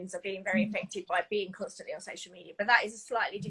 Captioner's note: none